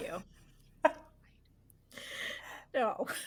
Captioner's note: chuckles